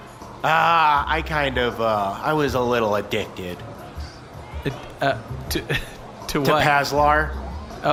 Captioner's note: confused laughter